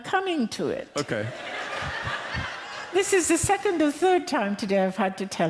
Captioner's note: laughter